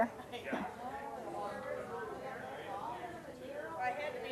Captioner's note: general chatter